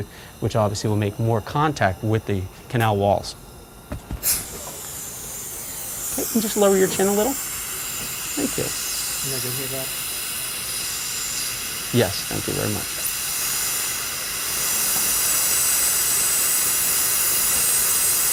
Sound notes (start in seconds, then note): 9.8 air whooshing; 14.3 drill whirring